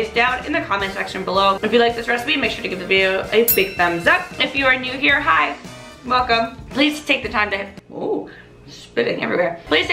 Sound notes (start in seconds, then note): 3.4 bell rings